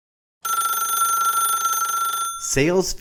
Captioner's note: phone ringing